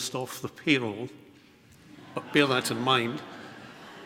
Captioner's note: audience laughs